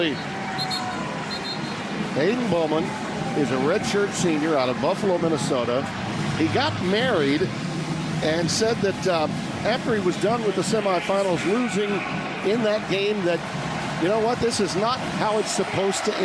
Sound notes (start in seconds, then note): 3.3 whistle blowing